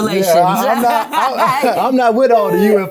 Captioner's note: laughs